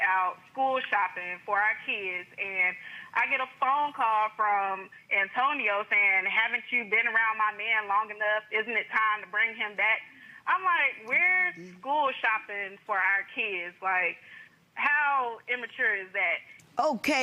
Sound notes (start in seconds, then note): none